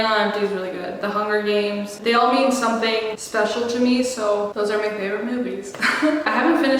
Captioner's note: laughs